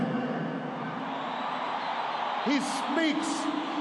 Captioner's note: applause